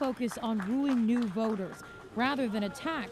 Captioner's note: applause